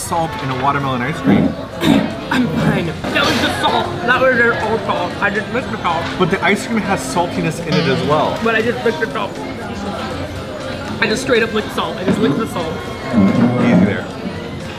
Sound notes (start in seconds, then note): 1.8 clears throat